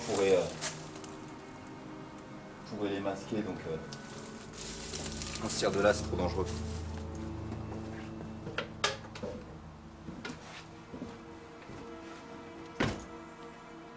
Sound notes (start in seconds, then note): 5.4 speaks French; 10.3 uneasy music continues